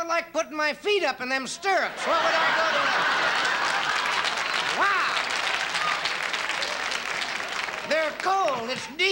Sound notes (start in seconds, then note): 1.7 laughing and clapping